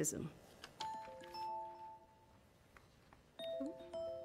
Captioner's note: timer chiming